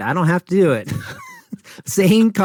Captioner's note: both laugh